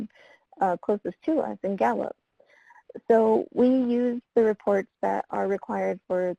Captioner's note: voice muffled